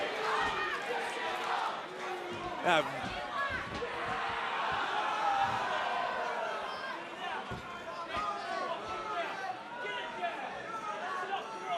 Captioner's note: fans chanting